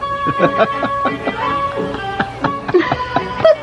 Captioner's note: laughing